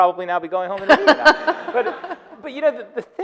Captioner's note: audience laughing